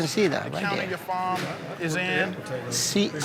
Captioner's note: overlapping chatter